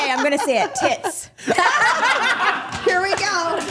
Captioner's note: group laughing